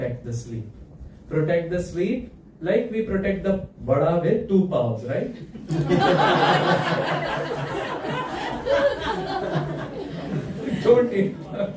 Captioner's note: laughter